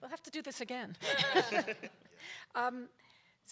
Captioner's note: panel members laugh